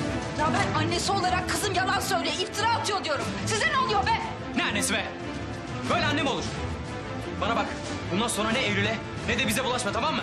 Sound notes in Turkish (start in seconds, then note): none